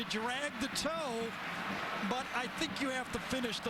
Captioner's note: laughing